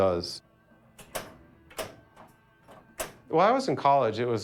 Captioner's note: flippers click individually